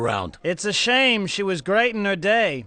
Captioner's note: none